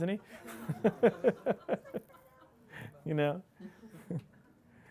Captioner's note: audience laughing